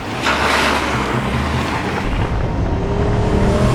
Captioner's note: truck door slams; truck engine revs; suspenseful music